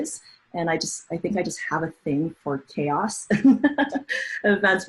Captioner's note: laughs